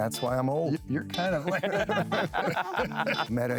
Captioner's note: laughter